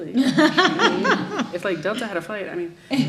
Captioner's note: audience laughs